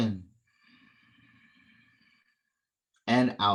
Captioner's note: inhale